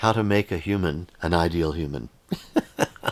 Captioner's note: laughs